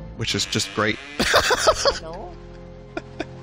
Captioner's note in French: rire